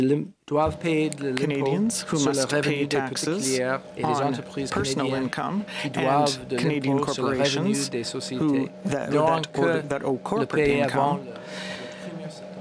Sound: speaking french

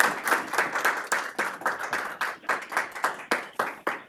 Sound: applause

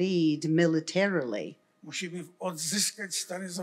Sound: foreign language

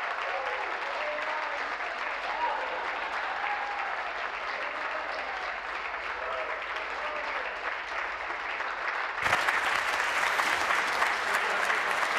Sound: applause

